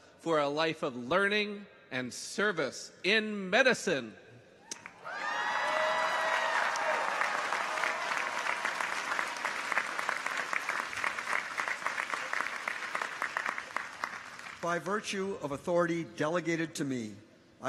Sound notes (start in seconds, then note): 4.7 people cheer; 4.8 audience applauds